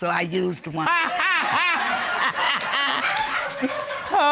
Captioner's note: all laugh